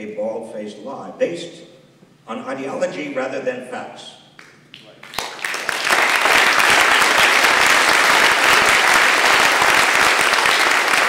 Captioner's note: applause